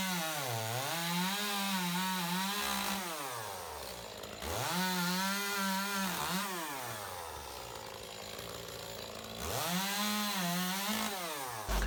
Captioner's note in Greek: Ήχος από αλυσοπρίονο